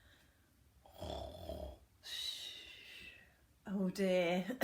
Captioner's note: snoring